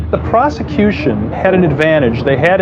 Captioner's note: sireren n waililini